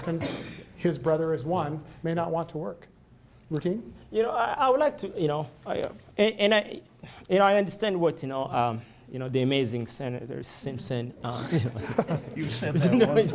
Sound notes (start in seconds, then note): 11.3 laughter